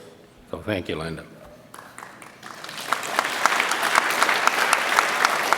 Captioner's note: audience applauds